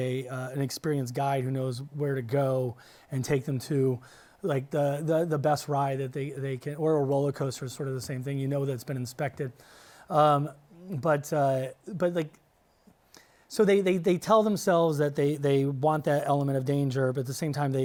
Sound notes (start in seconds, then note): none